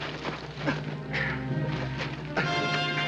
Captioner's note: both grunting